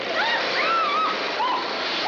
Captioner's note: screams